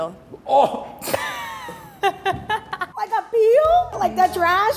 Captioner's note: laughing